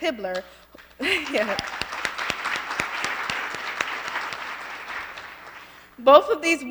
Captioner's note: applause